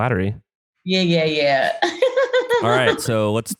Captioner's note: laughs